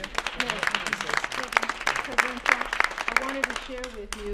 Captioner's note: applause